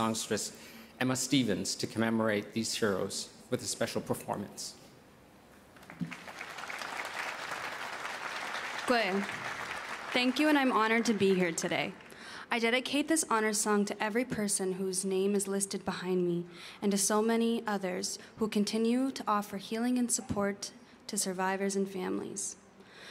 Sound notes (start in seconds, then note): 10.6 applause; 13.5 speaking Indigenous LANGUAGE